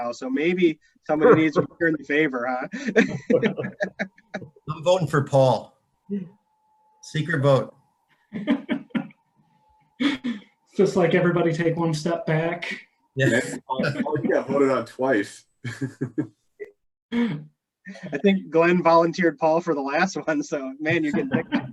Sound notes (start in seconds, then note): 4.0 laughing; 8.3 laughing; 13.2 indistinct chatter; 15.6 laughing